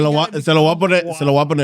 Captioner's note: speaking In Foreign Language